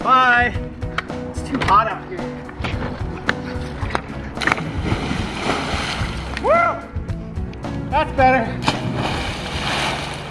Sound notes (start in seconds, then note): 4.4 splash; 8.6 splash